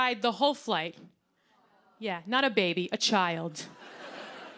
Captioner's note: awws; laughter